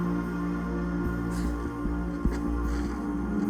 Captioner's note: crying